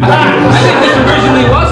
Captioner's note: laughter